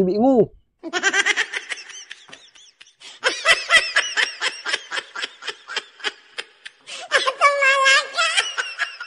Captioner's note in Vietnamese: Tiếng cười